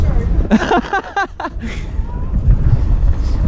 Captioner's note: laughter